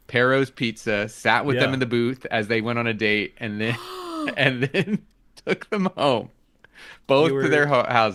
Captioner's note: laughter